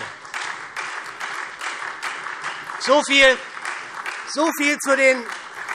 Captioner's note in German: Beifall SPD und Freie Demokraten